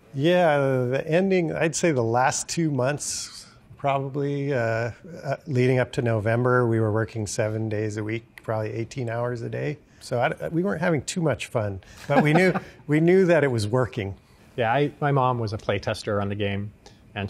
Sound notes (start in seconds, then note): 12.0 laughing